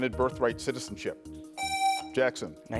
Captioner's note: buzzer rings